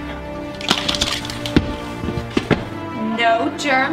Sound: instruments clattering

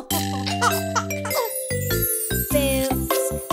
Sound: chuckling

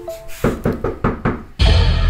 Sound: door knocking

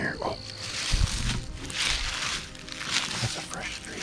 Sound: leaves crunching

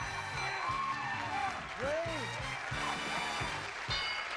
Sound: audience applauding

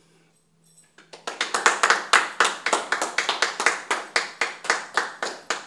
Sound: applause

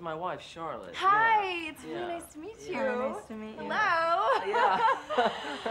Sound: laughs

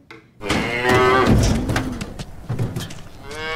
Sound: cow mooing

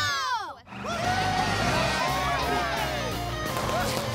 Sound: cheering

